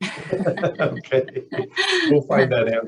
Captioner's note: laughing